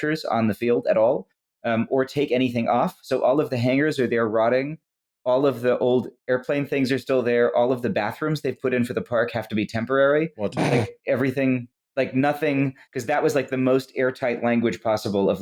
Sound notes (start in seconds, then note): 10.6 snort-laughs